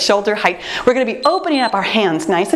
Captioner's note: timer beeps